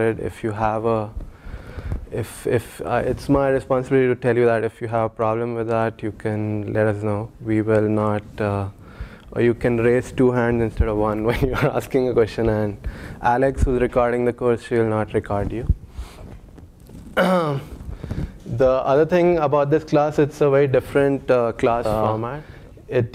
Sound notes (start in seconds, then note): 17.1 cough